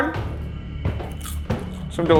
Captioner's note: popcorn crunching